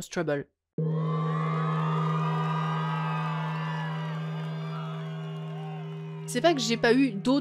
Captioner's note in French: gong et foule qui approuve à mort